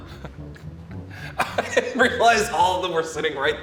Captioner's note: laughs